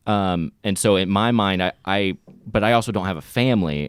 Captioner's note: none